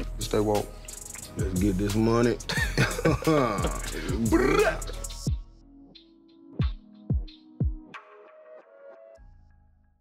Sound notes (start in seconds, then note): 2.5 laugh